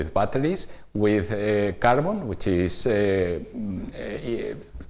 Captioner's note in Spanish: vacilación